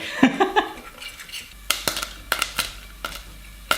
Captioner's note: laughing